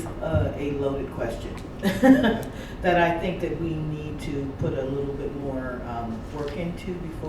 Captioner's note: laughs